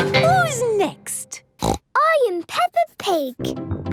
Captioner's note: snorts